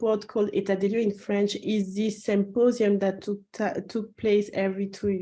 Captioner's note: french